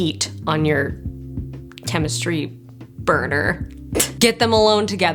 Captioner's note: titters